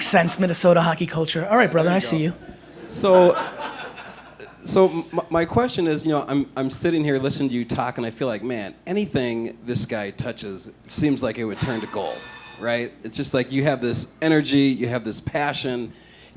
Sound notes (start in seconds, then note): 0.8 laughter